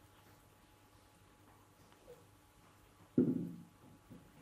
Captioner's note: Stille